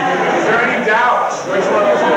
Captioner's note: crowd laughing